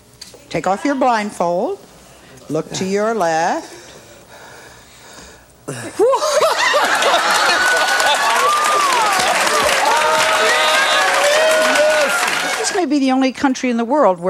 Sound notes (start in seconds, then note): 6.0 everyone laughs